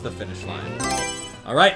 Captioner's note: Mario Selection Sound